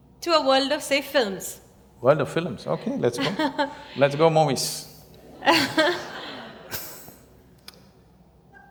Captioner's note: laughter